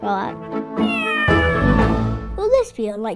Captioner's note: cat miaowing